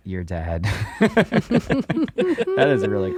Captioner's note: laughing